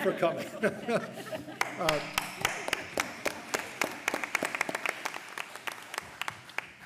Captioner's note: laughter; applause